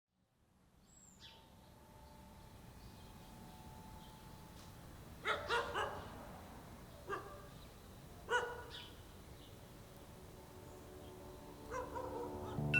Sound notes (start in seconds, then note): 0.0 birds chirping at a distance; 5.2 dog barking; 8.2 dog barking